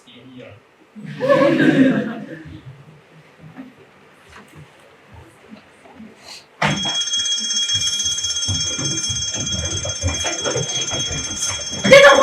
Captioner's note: 𝘍𝘪𝘳𝘦 𝘢𝘭𝘢𝘳𝘮 𝘨𝘰𝘦𝘴 𝘰𝘧𝘧